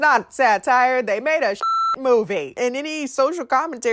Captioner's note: beep